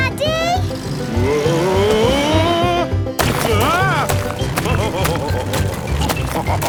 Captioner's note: laughing